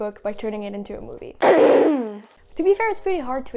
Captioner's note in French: Toux forte